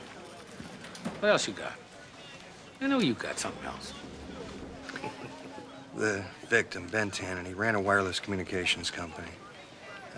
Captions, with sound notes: What else you got? I know you've got something else. (chuckles) The victim, Ben Tannen, he ran a wireless communications company.